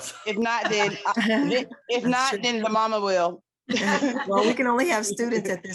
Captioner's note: group laughs